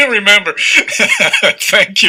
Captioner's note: laughing